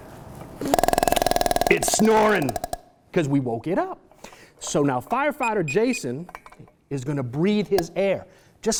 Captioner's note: fast tapping sounds